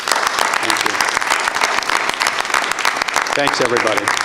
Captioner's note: regents applaud